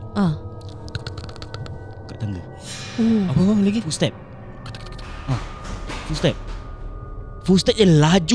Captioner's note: footsteps sound